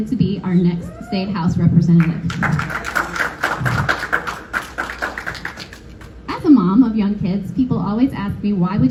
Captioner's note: applause